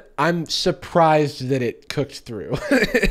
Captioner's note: laughs